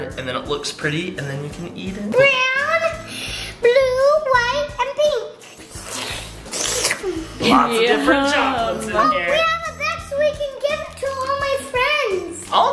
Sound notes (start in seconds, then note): 5.4 slurping